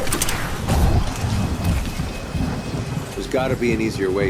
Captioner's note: projectile slams; projectile whooshing; thunder rumbles